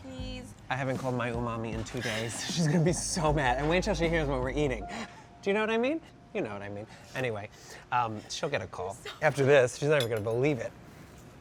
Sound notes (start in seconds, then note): 2.0 laughs